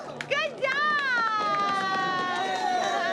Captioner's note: applause